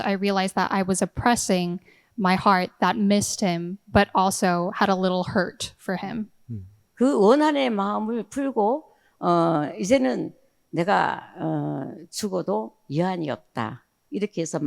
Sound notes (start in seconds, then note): 7.0 speaking in foreign language